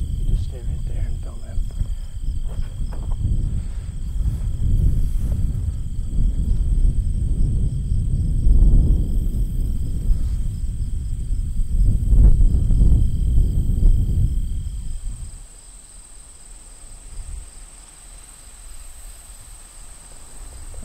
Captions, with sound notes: Just stay right there and don't move. [Wind blowing]